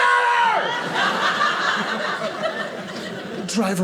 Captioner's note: audience laughing